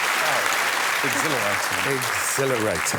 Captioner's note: cheers and applause